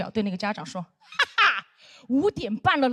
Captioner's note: laughing